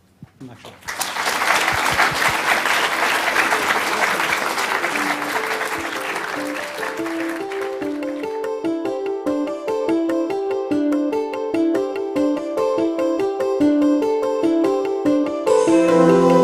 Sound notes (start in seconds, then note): 0.8 audience applauding; 6.3 bright music